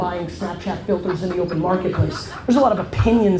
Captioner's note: crowd laughs